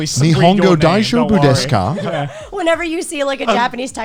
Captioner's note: speaking Japanese slowly